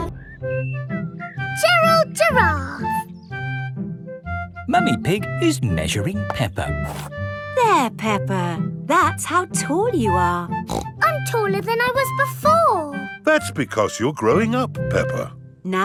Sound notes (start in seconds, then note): 10.6 snorts